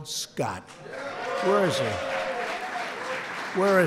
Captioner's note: applause